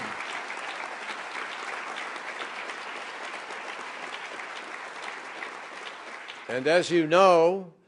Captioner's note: applause